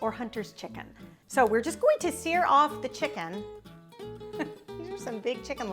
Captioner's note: chuckles